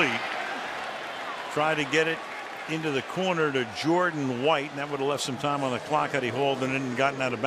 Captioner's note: announcer on loudspeaker